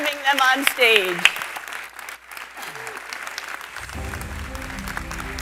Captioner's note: applause